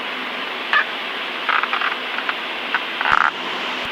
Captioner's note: sun visors squeek and creak and whine and moan